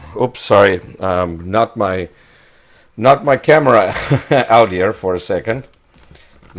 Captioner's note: laughs